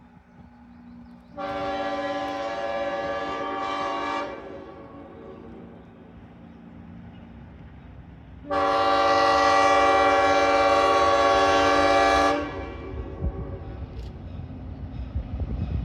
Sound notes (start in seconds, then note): 1.3 distant horn; 8.4 another long horn